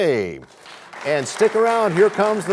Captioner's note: applause